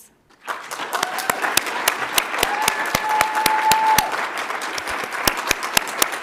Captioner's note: audience applauds; audience cheers